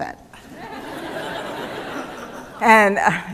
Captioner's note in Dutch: Gelach